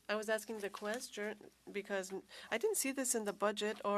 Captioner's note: speaking French